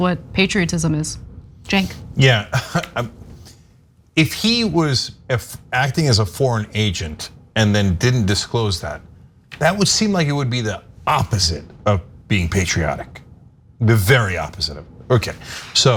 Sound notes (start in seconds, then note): 2.3 laugh